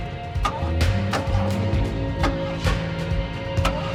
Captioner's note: engine clunking